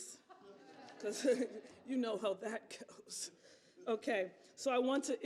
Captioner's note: laughter